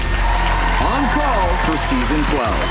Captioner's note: crowd cheering